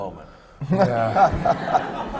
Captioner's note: laughter